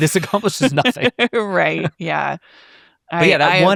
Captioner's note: chuckles; laughs